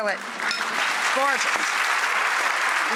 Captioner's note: audience applauds